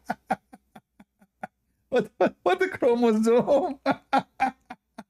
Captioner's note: Ketawa